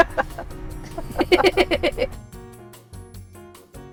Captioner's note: both laugh; upbeat music